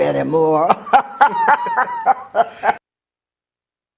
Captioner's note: laugh